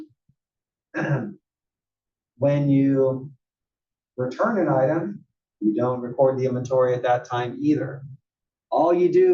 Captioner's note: cough